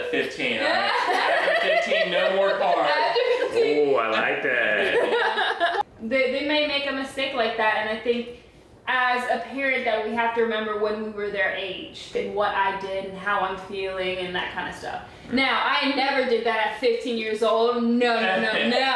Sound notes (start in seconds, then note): 0.7 laughing; 3.6 pops